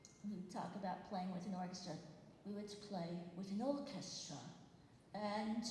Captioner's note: British accent